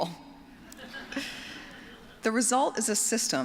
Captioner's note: laughter